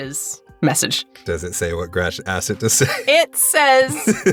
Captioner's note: chuckles